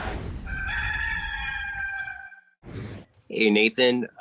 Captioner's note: rooster crowing